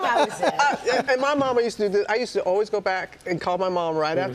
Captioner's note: laughter